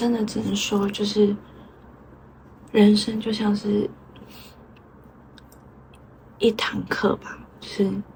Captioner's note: deep breath